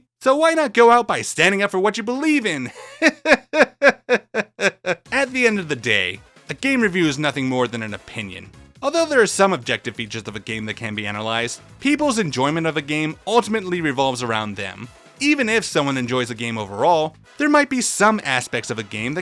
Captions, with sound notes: so why not go out by standing up for what you believe in? *laughs* At the end of the day, a game review is nothing more than an opinion. Although there are some objective features of a game that can be analyzed, people's enjoyment of the game ultimately revolves around them. Even if someone enjoys a game overall, there might be some aspects of a game